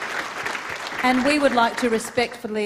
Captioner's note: applause